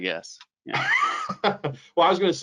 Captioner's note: laughs